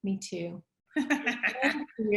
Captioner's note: laughs